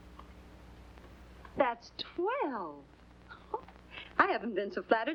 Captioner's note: chuckles